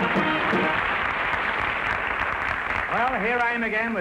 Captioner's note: music & applause; applause